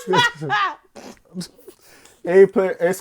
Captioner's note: laughing